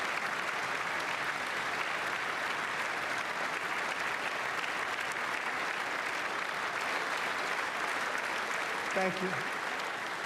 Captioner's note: applause